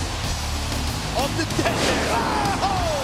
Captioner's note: fireworks booming